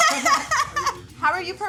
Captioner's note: both laugh